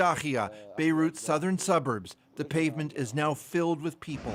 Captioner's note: speaking alternate language